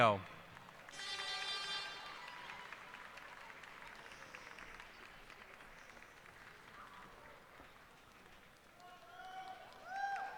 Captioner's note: cheers and applause